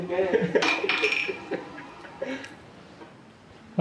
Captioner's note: laughing